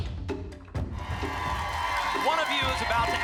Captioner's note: applause and cheering